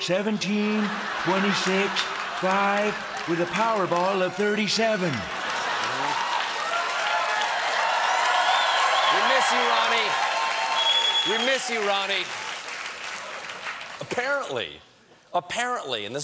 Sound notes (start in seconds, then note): 5.2 laughter; 5.5 cheers and applause